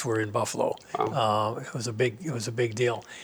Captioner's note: pat